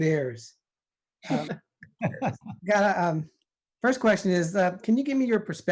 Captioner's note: laughter